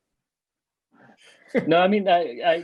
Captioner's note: chuckles